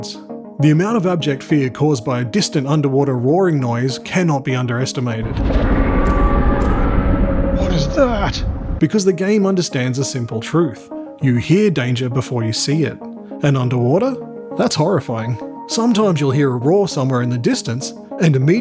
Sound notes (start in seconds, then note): 5.2 loud roar